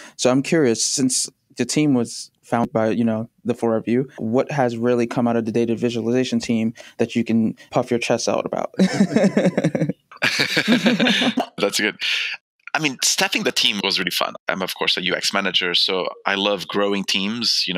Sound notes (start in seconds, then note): 8.8 laughter